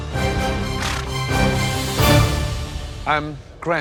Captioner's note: snorts